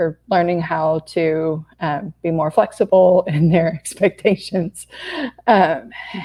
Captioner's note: laughs